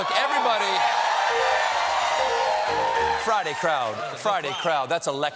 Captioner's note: cheers and applause